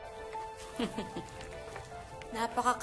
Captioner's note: satisfied laughter